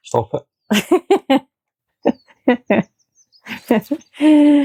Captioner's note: laughter